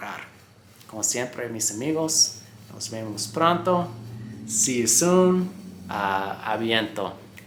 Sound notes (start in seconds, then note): 3.7 Spanish